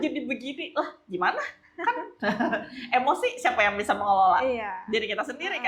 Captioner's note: laughs